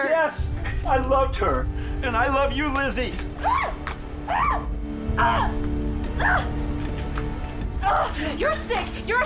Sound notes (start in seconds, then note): 3.4 Liz yelling; 3.4 ominous music